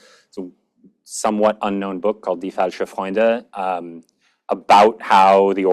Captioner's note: german